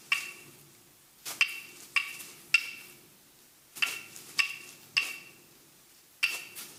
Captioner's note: leaves rustling; sticks banging